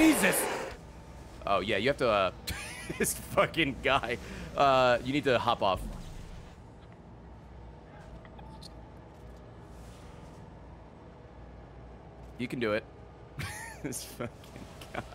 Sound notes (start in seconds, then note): 0.0 laughs; 4.6 laughs; 13.7 laughs